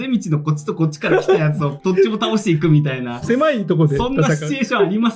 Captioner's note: laughs